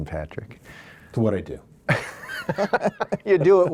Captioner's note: both laugh